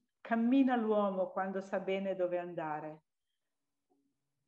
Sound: speaks in Italian

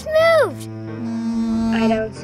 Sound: buzzing

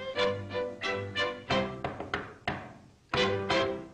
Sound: knock knock

